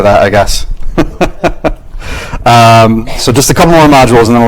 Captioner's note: laughs